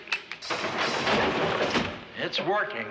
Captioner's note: clanging